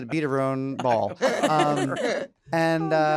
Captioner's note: laughter